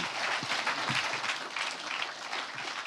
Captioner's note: applause